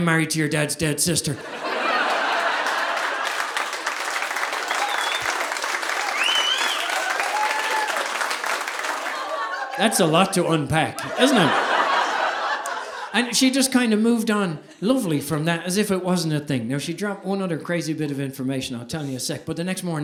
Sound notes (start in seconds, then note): 1.3 audience laughing; 1.7 audience applauding